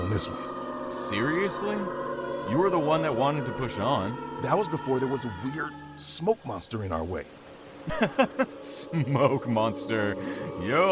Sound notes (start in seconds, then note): 7.8 laughs